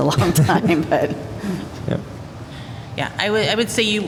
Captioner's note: laughter